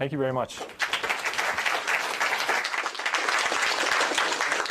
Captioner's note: applause